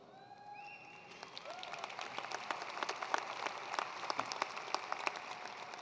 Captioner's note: attendees cheering and applauding